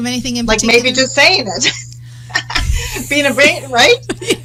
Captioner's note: chuckles; both laughing loudly